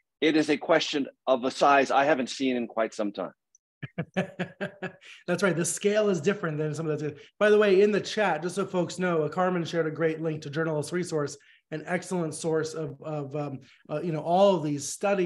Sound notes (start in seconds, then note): 3.8 laughing